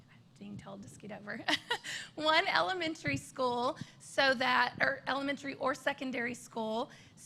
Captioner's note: laughter